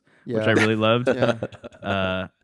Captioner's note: laughs